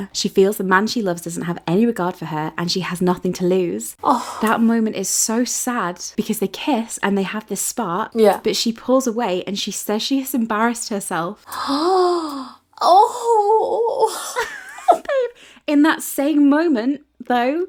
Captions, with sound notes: "She feels the man she loves doesn't have any regard for her "and she has nothing to lose." - Oh. - "That moment is so sad because they kiss and they have this spark, but she pulls away and she says she has embarrassed herself." (gasps) - Oh. - In that same moment though,